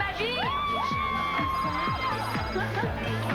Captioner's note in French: Cris de joie